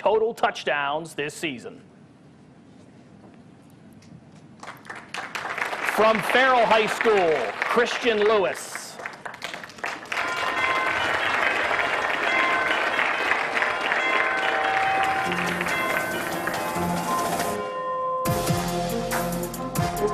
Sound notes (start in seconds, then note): 8.0 applause; 17.0 applause